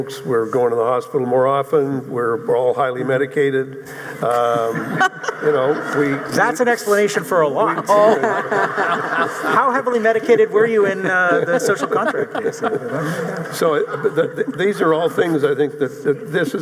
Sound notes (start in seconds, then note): 4.4 audience laughing; 8.1 audience laughing